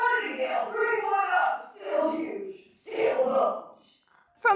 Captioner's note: robotic voice talks